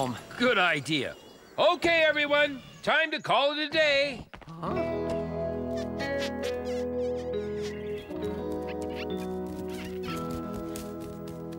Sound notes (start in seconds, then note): 5.4 bunnies Squeaking